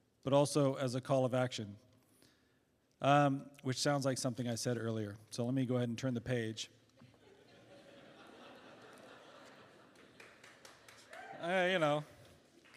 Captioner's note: laughter